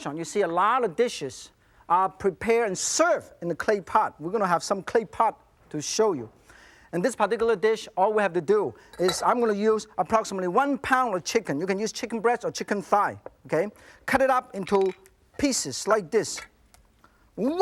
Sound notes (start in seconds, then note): none